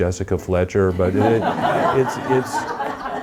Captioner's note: audience laughing